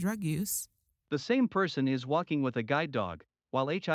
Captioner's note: voiceover